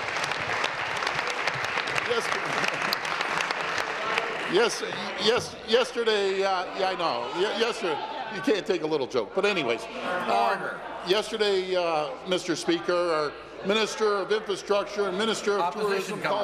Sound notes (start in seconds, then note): 2.0 applause